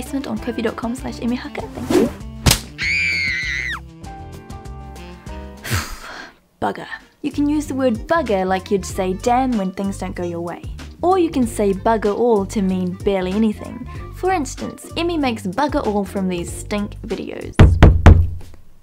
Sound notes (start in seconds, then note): 2.7 screams; 17.6 door knocking